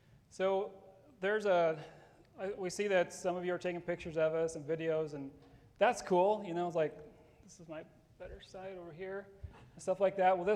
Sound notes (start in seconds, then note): none